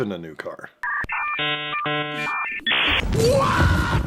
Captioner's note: dial tone